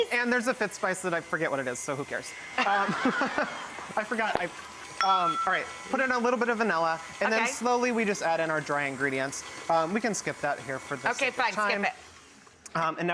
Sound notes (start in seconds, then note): 2.5 audience laughing; 5.0 glass bowl dings